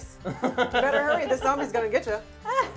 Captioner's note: laughing